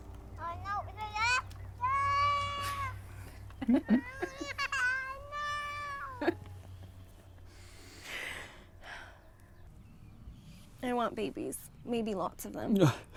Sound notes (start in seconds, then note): 0.3 baby chattering; 3.1 laughing; 3.9 baby crying; 7.6 Hope sighs